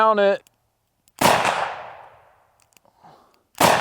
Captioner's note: gun shooting; gun shooting